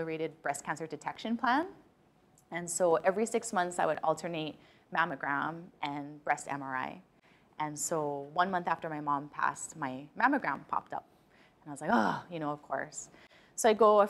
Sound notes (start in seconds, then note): none